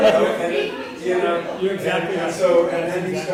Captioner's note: laugh